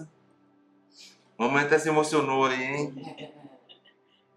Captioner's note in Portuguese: Risos